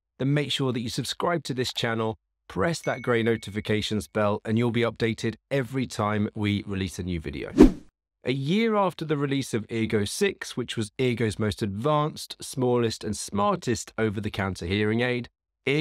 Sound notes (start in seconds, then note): 7.5 air whooshing